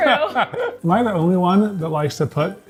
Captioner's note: laughs